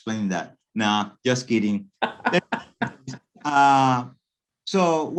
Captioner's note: laughing